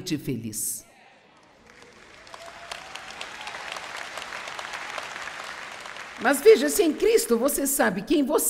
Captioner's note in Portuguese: audiência aplaude